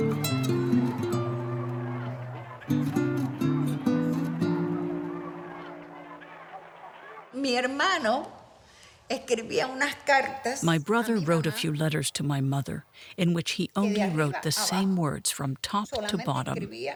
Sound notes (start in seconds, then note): 7.2 speaking in Spanish